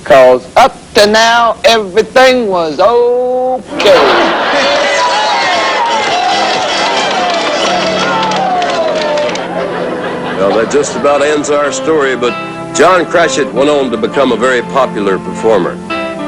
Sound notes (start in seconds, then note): 3.8 all cheering